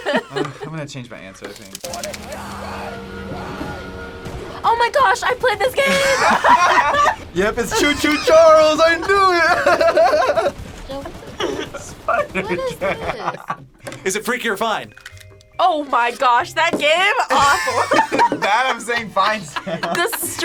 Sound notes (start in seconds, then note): 0.0 laughs; 2.2 screams; 5.7 group laughs; 10.2 laughs; 17.2 laughs